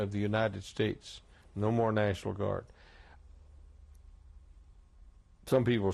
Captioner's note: pauses for 3 seconds